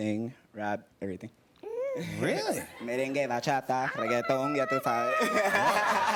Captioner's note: speaking Spanish; laughter